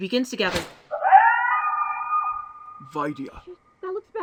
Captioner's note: echoing howl of pain